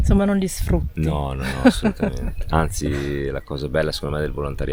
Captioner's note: laughter